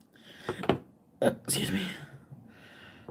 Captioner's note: burps